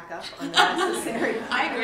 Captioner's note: laughter